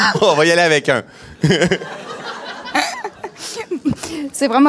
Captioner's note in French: rires